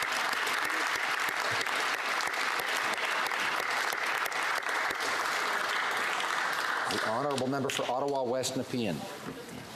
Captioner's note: applause